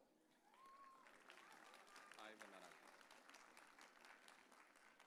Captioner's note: audience cheering